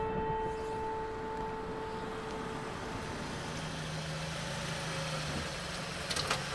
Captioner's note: slow ominous music; car engine rumbles